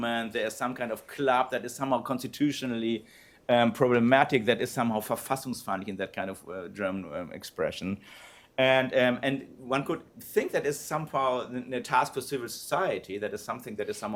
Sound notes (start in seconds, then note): 4.9 non-english speech